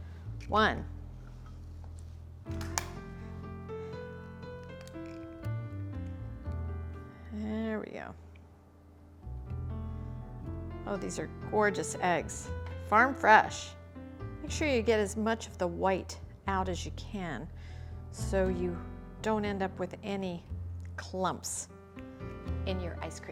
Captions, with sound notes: One. (shell cracking) There we go. (slow relaxing music continues) Oh, these are gorgeous eggs. Farm fresh. Make sure you get as much of the white out as you can, so you don't end up with any clumps in your ice cream.